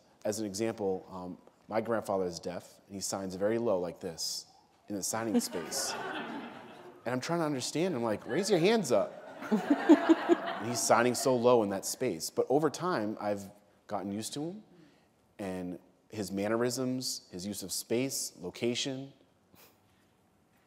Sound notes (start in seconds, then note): 8.2 laughter